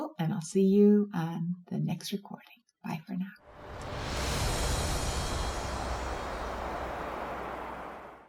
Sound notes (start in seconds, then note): 3.5 wind roars